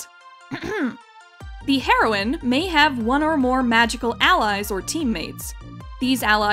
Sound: clears throat

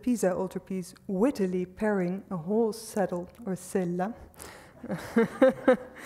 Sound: speaks foreign language; laughs

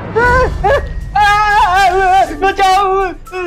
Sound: shouting

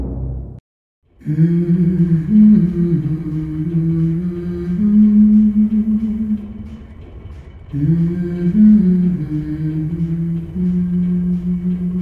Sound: humming

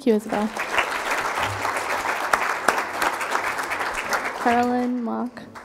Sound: crowd applauding

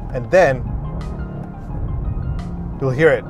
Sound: car engine revving

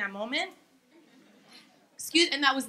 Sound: laughing

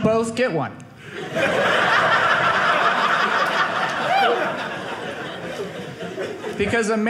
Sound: audience laughing

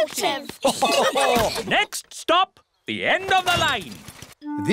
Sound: laughter

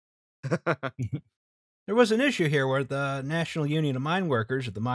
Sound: laughter

